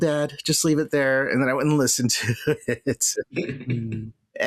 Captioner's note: laughter